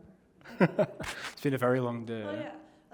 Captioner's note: laughs